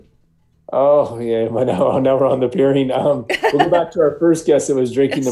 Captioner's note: laughs